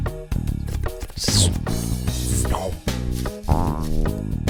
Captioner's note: frog gulping